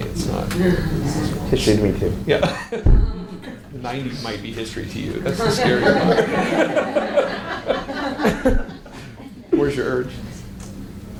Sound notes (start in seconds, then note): 2.4 laughs; 5.2 audience laughs